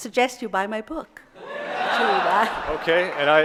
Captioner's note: audience laughing